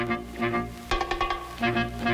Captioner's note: tap